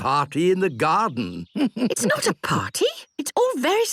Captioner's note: chuckles